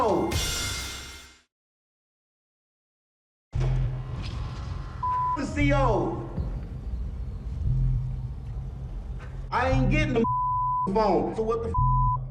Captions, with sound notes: I ain't getting a (beep) phone, so what the (beep)?